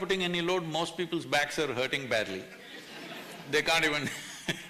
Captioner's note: few laugh; laughs